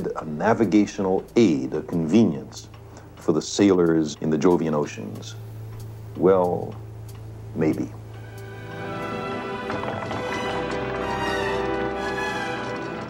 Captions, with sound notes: ...a navigational aid, a convenience... ...for the sailors in the Jovian oceans. Well, maybe. (WOOD CREAKS)